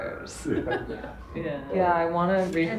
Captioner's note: laughing